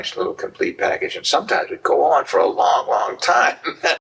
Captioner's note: laughs